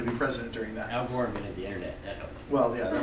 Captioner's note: voiceover